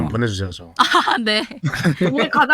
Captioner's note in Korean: 웃음